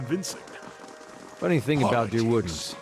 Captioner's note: footsteps